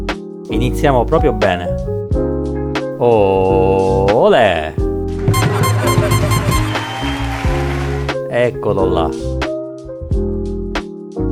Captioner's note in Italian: Applauso